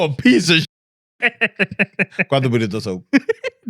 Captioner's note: speaking In Foreign Language